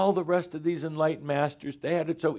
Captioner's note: none